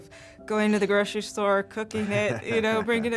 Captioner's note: laughing